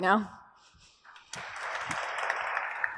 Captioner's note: applause